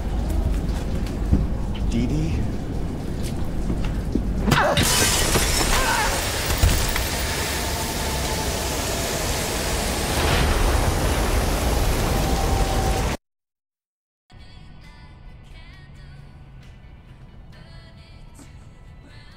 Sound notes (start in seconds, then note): 0.3 thud against window; 3.1 fast footsteps; 4.4 whack/crash; 5.6 scream; 6.6 thud; 8.3 driving rain/wind; 9.8 thunder clap; 13.0 silence